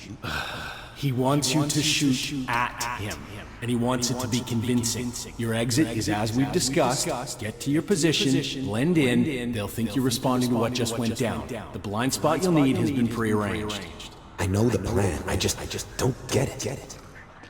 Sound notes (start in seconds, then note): 0.0 as an echo from the past